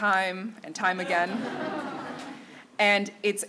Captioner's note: laughter